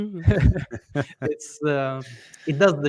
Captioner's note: laughter